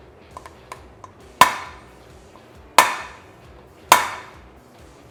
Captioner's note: hammering sound